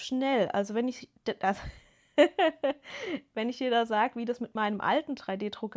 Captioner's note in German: gelächter